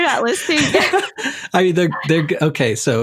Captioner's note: loughs